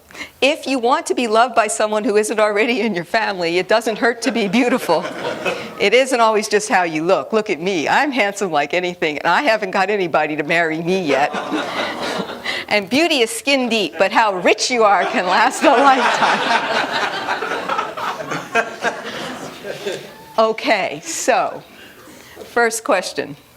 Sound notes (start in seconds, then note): 16.4 laughter